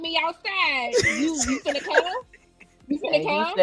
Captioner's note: laughing